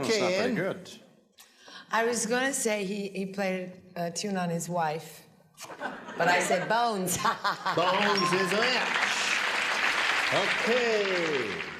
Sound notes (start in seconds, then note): 5.8 laughs; 7.8 applause